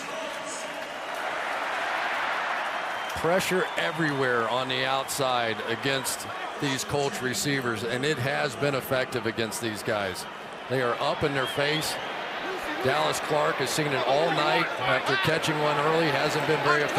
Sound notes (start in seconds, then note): 0.2 pa announcement; 1.5 crowd shouting